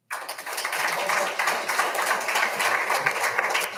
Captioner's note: all applauding